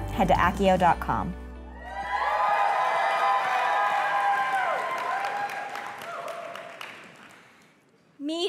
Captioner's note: applause